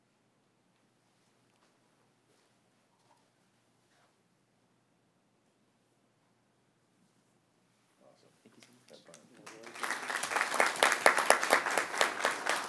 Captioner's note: applause